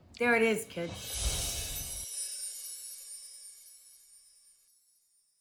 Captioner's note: chimes tinkling